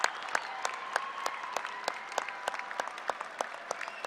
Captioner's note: applause